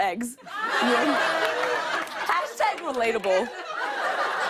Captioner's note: laughter